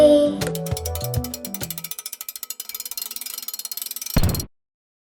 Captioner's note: gear cranking sound